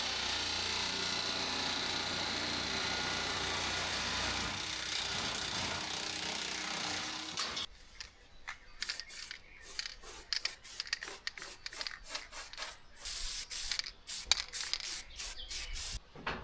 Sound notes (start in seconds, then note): 2.9 scissors snipping